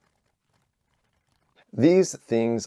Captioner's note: typing